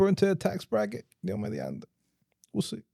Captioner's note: speaking In Foreign Language